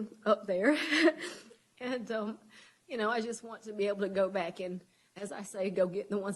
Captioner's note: sobbing